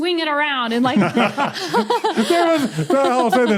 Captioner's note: group laughing